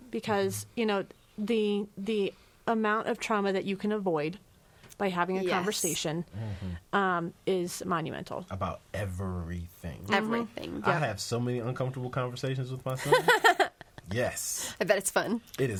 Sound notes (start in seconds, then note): 13.0 laughs